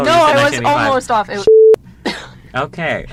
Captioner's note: beep